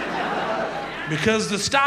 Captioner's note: audience laughs